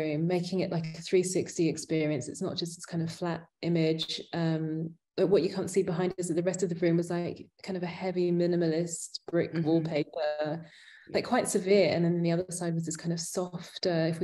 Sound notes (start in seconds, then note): none